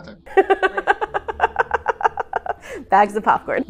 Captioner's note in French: laughing